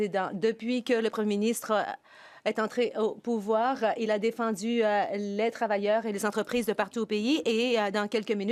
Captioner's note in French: voix de l'interprète